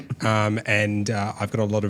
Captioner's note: giggling